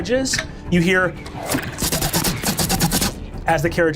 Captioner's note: arrows hitting wood